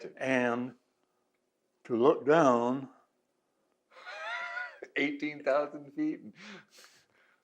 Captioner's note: laughs